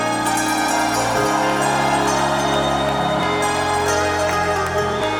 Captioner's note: audience cheers